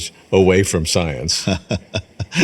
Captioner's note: laughs